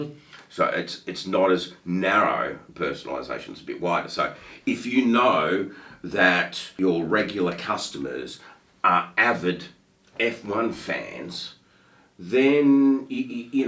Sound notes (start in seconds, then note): none